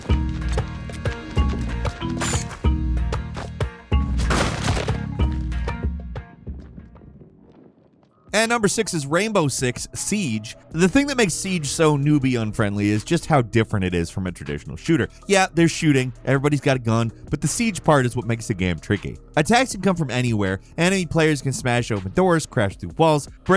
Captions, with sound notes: (suspenseful music) (dirt crumbling) At number six is "Rainbow Six Siege". The thing that makes "Siege" so newbie-unfriendly is just how different it is from a traditional shooter. Yeah, there's shooting, everybody's got a gun, but the siege part is what makes the game tricky. Attacks can come from anywhere. Any players can smash open doors, crash through walls,